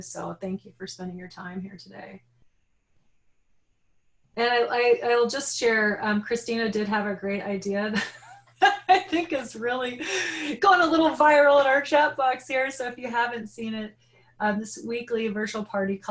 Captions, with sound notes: So thank you for spending your time here today. Like I'll just share, Christina did have a great idea. (laughing) I think it's really gone a little viral in our chat box here. So if you haven't seen it this weekly virtual party